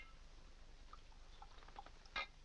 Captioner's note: liquid pouring